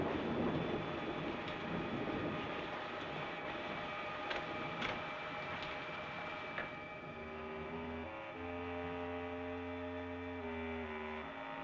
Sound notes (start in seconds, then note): 3.7 door rattling; 3.7 suspenseful music continues